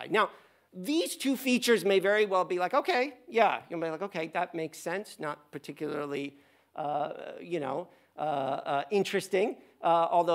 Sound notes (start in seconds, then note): none